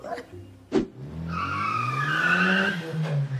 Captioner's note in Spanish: Sonido patinazo coche